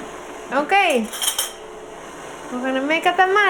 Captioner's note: silverware rattling